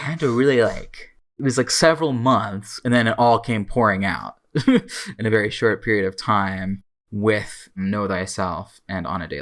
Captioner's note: laughs